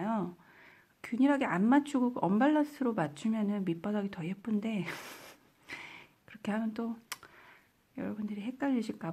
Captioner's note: giggles